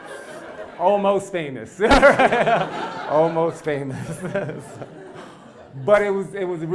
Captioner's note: laugh